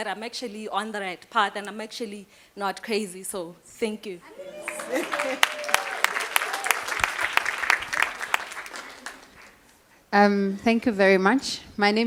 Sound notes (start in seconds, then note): 7.5 applause